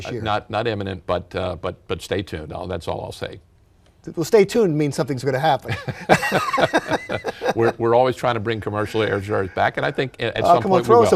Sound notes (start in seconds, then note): 5.7 laughs